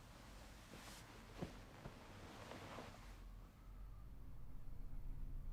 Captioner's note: sheet rustling